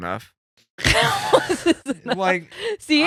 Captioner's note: laughing